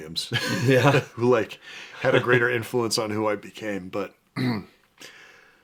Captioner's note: clears throat